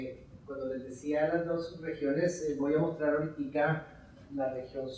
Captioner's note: speaking in Spanish